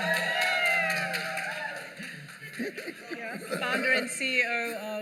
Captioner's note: cheers and applause